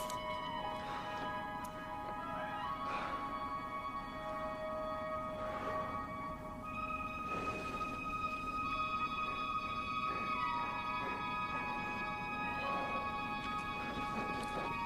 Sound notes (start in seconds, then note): 0.5 exhales